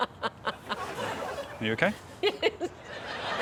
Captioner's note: laughs